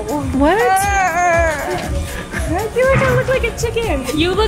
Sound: pretends to cry

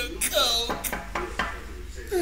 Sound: door Knock

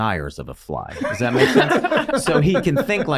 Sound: all laughing

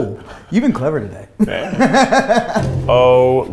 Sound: laugher

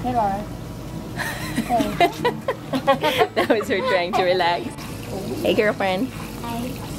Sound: laughs

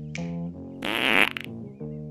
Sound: fart noise

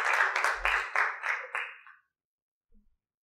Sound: applause

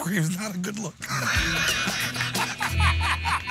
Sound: laughter

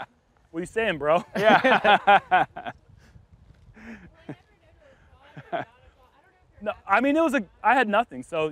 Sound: laughter

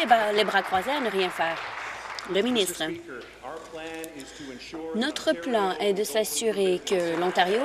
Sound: applause

